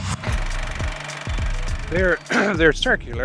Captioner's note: film reel clicks